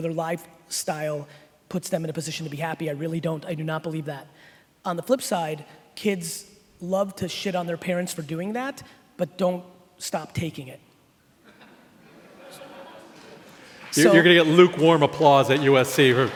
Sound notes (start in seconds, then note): 12.3 sparse laughing